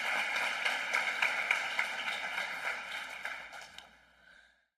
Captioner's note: applause